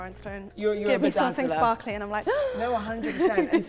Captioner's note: gasp